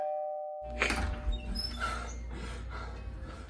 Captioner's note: door bell rings; door creaks open; man panting